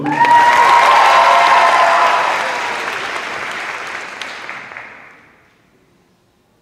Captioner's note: cheers